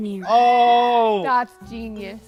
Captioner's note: screams